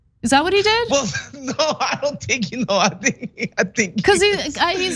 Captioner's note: laugh